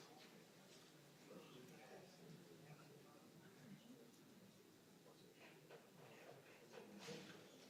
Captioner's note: audience noise continues